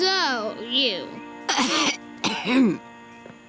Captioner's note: coughing